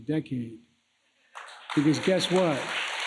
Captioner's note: applause